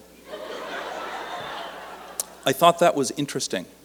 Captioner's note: laughter